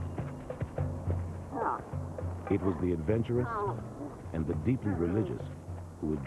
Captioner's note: camels Braying